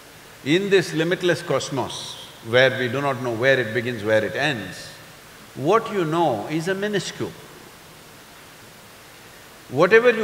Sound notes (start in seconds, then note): none